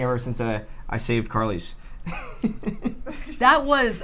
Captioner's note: laughs